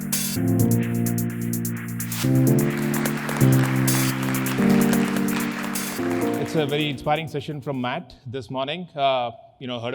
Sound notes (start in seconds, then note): 2.1 audience applause; 2.5 soft music